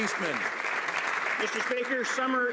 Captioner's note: some Applause